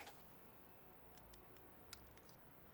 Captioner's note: none